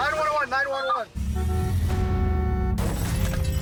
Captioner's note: car horn honking